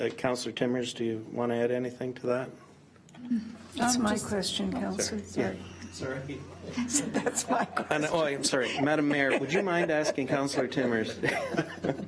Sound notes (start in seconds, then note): 6.7 chuckles; 6.7 laughs